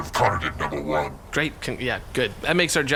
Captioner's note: stammering